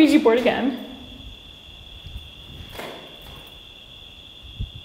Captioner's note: crickets chirping